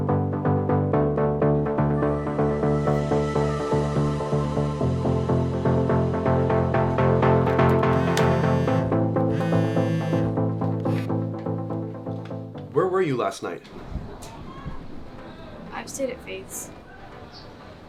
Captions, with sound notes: (uptempo music continues) (phone vibrating) - Where were you last night? - I stayed at Faith's.